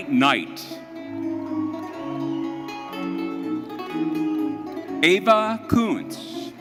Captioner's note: audience cheering